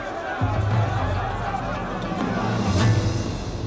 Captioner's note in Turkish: Kalabalık bağrışma sesleri